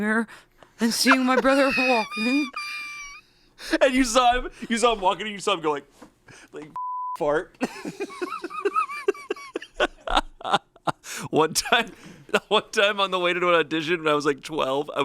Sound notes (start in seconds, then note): 2.4 laughs; 6.8 beep; 7.6 laughs